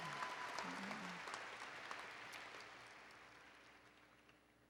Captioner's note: applause